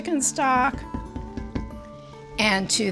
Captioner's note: spatula thudding gently